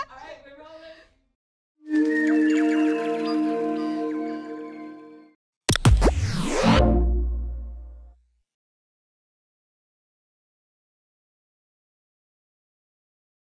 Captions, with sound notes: - All right, we're rolling! (BIRDSONG, MYSTICAL CHIMING) (STATIC BUZZES, WHOOSHING, WARM TONE)